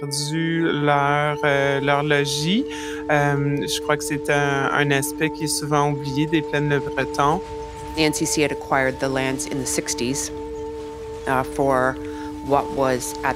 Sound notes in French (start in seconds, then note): 5.4 bruit des bâtiments en cours de démolition